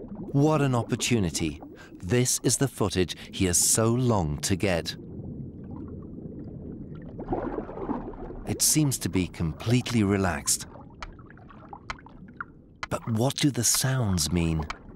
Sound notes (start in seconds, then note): 9.8 seal clicking regularly